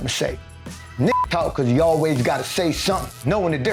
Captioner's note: beep